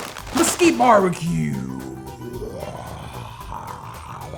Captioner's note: growling